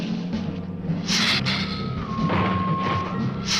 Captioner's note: lizard hissing; ground rumbling